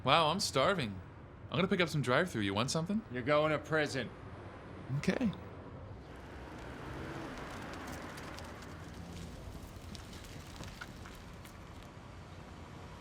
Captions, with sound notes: - Wow, I'm starving. I'm gonna pick up some drive through. You want something? - You're going to prison? - Okay. (birds chirping)